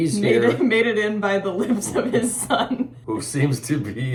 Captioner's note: laughing